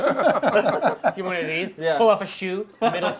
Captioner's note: laughter